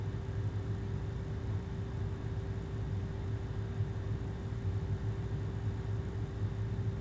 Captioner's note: air conditioner humming continues